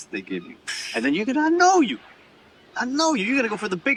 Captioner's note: scoffs